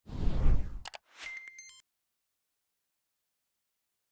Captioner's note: air whooshing